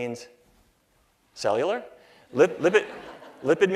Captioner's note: laughter